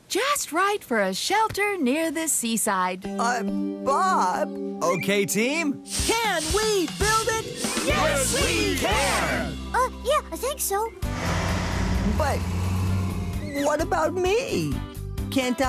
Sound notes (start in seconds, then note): none